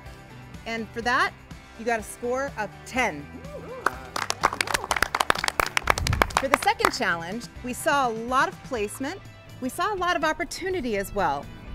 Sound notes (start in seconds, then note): 3.4 contestants applaud and cheer